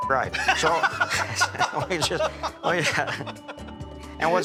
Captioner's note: laughter